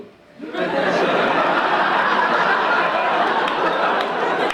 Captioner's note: audience laughing